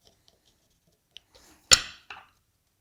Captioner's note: mallet on desk thumping; chisel on wood scraping; chisel on desk tapping